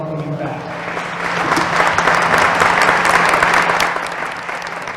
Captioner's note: applause